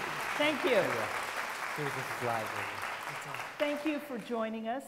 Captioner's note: applause, mumbling